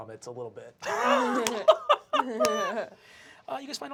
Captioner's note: laughter